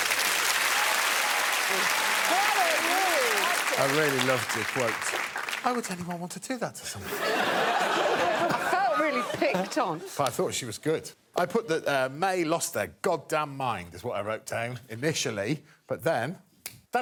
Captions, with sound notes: Bye, Mae. [cheering and applause] I really loved the quote, "Why would anyone want to do that to someone?" -I felt really picked on. -I thought she was good. I put that, er, "Mae lost their goddamn mind," is what I wrote down initially,